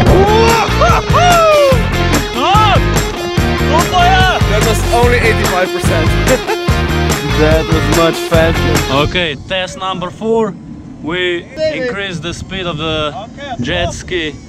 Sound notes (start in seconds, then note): 0.6 laughter; 3.7 shouts in Slovenian; 6.0 laughs